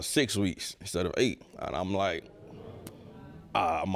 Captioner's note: audience murmurs